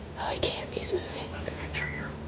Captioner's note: whispering